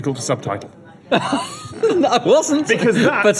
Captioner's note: laughter